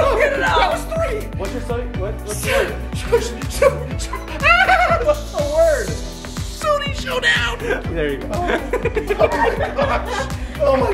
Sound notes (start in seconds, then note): 4.2 stammers; 8.4 everyone laughing